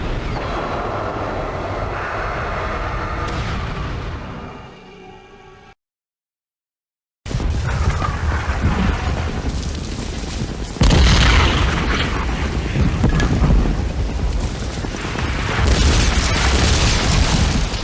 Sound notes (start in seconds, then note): 0.1 dramatic music; 5.0 explosions